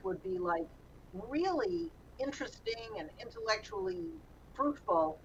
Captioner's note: none